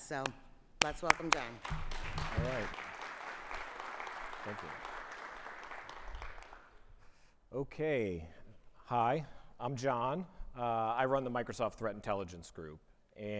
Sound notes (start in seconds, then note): 0.8 clapping; 4.5 audience applauding